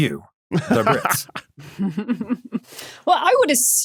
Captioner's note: snickers; cackles